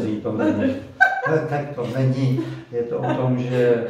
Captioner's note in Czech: Smích